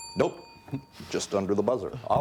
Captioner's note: bell dinging